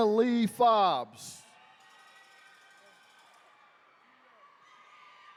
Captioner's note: attendees cheering